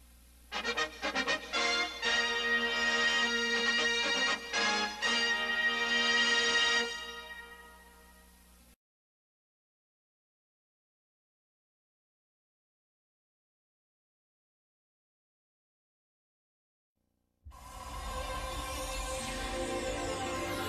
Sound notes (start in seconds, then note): 0.5 retro fanfare playing; 7.9 silence; 17.5 dramatic music plays